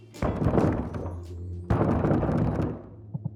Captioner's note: knocks